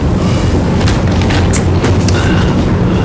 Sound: tongue clicks

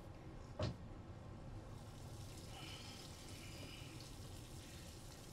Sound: shower sounds

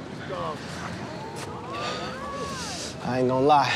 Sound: crowd

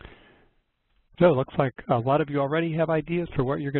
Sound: voiceover

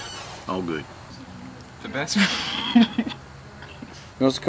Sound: laughs

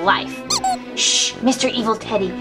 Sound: teddy bear squeaking

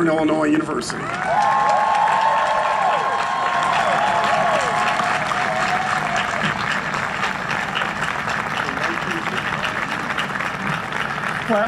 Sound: huge Cheering and Applause

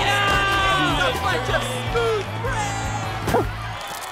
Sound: indistinct shouting

